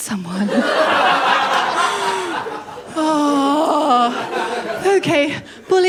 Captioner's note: laughter